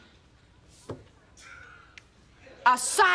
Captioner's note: sighs